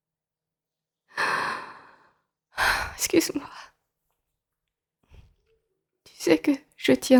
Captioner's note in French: soupir